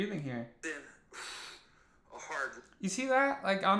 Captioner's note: exhales